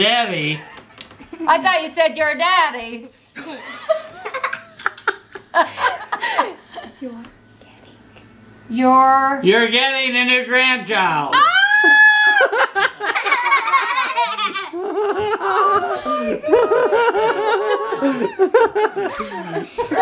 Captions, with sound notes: - Your daddy. - I thought you said your daddy. (laughs) - Your-- - You're getting a new grandchild! (screams) (laughs) - Oh my gosh!